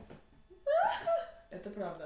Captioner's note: sharp feminine laughter